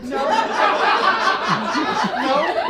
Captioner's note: audience laughs